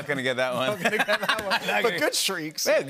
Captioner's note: laughter